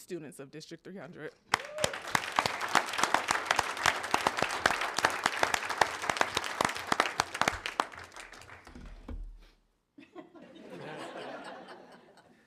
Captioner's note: applause